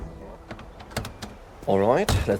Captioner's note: car doors close